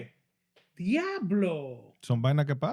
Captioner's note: speaking Foreign Language